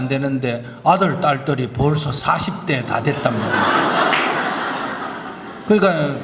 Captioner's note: audience Laughter